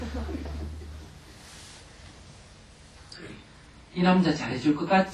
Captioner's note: audience laughter